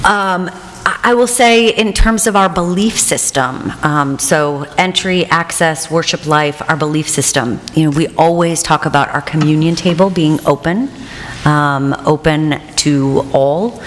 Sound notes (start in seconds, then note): none